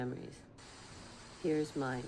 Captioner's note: television static